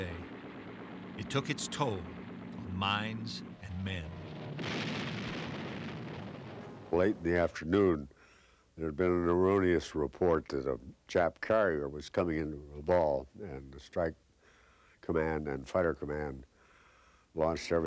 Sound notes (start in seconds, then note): 4.6 exploding